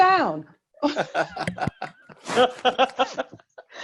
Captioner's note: chuckling